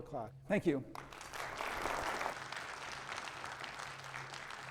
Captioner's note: audience applauds